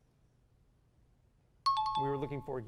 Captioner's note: timer